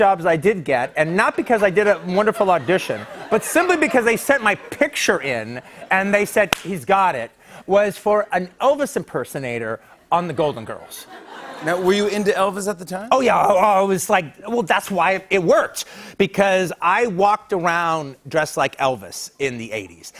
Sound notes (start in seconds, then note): 10.3 laughter